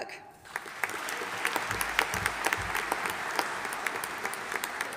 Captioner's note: audience applauding